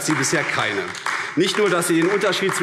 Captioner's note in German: Beifall AfD